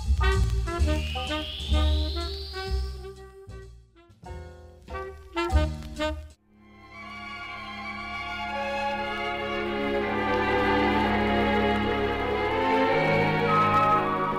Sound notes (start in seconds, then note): 0.0 jazz music; 0.6 radio modulating to various frequencies; 7.1 jazz music